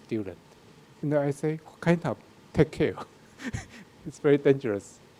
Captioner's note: laughs